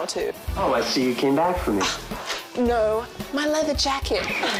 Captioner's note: scoffs